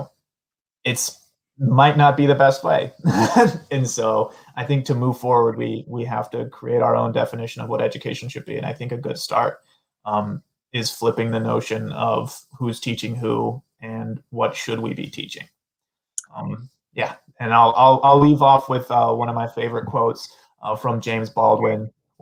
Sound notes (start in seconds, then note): 3.0 laughter